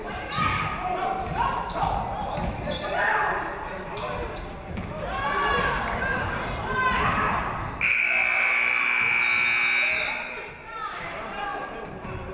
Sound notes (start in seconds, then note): 7.8 buzzer buzzes; 7.8 referee whistles